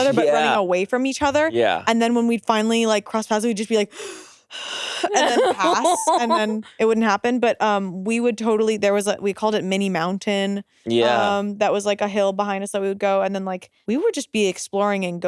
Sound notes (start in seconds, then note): 4.9 gasps